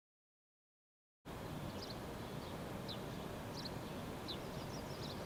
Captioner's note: birds chirping